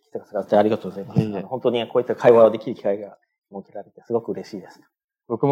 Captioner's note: speaking japanese